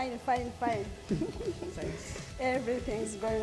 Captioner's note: laughter